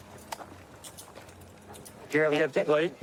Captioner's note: handcuffs clicking